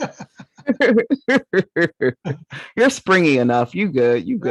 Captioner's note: laughs